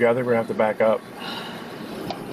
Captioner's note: sighs